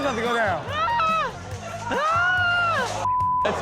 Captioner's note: Rob screaming